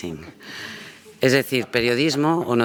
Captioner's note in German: spanisch